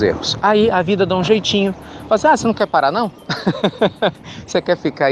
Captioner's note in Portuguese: Risos